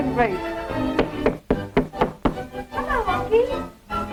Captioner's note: door knocking on door